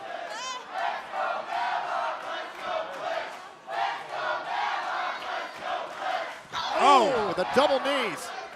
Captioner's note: fans chanting